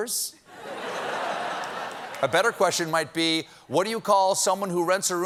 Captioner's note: laughter